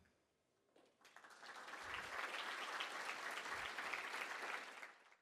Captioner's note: audience clapping